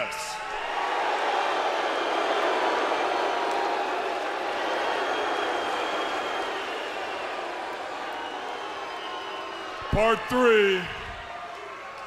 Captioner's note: crowd cheering